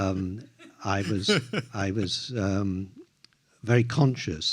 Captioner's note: laughs